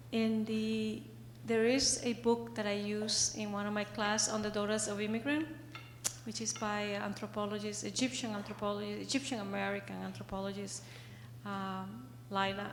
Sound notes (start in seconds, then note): 5.0 slurs words